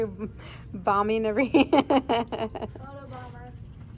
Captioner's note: laughs